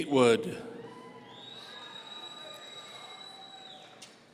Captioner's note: audience cheering